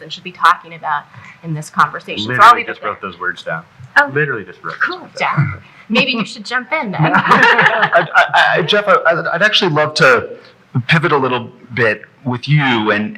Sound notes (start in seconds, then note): 6.8 laughing